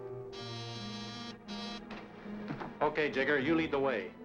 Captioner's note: alarm buzzing